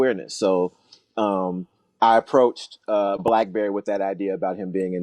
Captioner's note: pop sound